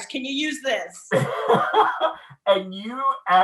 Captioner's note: laughing